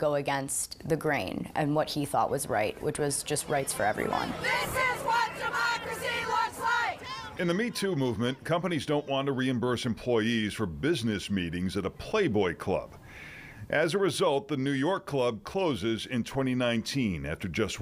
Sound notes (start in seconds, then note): 4.8 women chanting